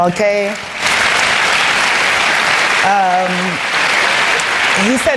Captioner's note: applause